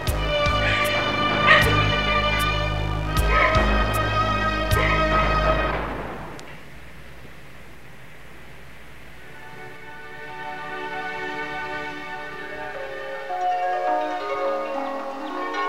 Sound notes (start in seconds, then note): 1.2 sobbing; 6.4 music stops; 9.2 dreamlike music